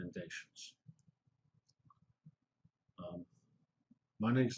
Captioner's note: pause